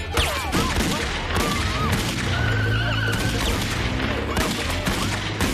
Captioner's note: women whooping